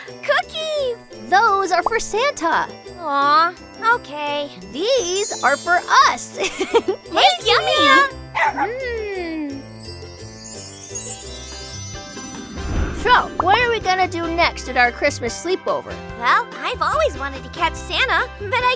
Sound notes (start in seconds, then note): 8.2 dogs bark; 8.8 festive music